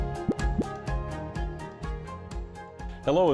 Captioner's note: graphic pops